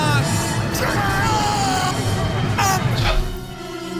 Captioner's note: screaming